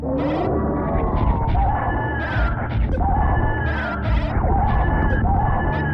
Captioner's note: Mother Brain screaming